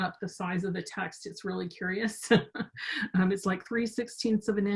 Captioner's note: chuckles